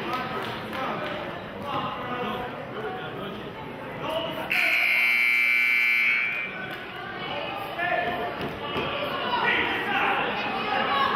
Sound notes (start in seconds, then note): 4.5 buzzer honks